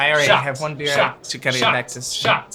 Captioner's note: chanting